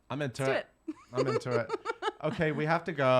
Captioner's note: laughing